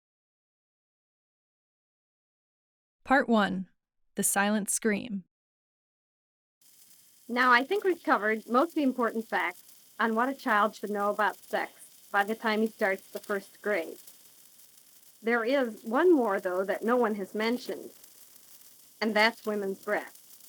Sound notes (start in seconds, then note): 5.0 soundbite of archived recording